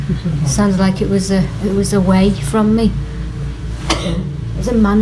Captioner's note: coughs